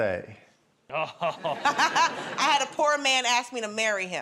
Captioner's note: chuckles